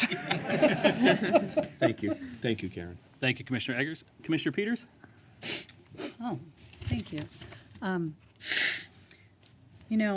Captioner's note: laughter